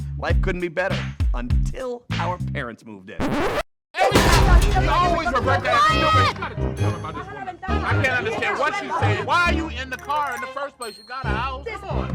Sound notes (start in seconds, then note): 3.2 record scratches; 3.9 loud arguing